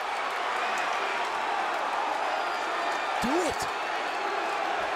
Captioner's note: crowd clamoring